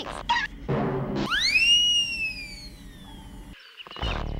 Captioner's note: whistle!; funk music plays